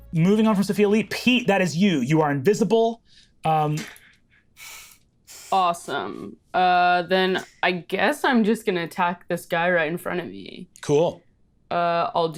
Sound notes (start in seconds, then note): 3.8 Lou chuckles